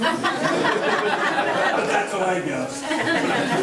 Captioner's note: members laughing